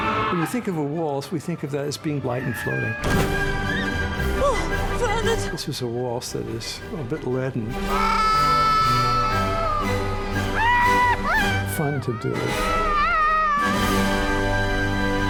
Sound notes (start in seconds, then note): 7.9 screaming